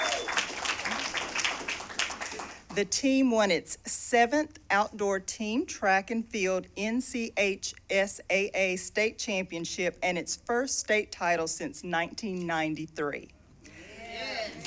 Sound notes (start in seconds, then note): 2.5 cheers and applause